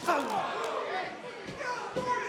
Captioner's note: crowd exclaiming; crowd shouting